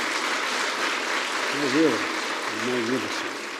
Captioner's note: applause